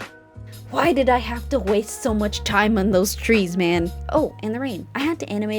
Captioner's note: complaining